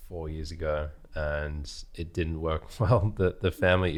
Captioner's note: laughs